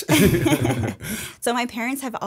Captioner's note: laughter